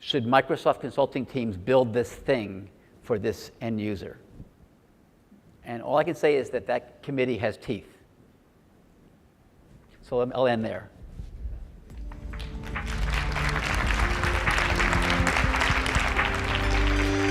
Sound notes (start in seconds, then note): 12.0 audience applauds; 14.1 electronic music